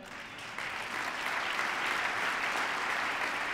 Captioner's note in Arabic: تصفيق